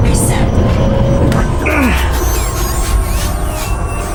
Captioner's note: button clicks; Hawk groans; screen whirring